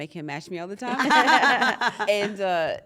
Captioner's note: laugh